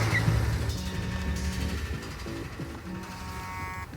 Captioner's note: phone buzzing